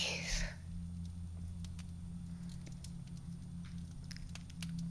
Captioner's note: fire crackling